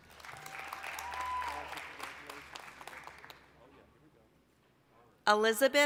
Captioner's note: applause, cheering